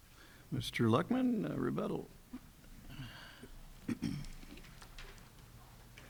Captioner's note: clears throat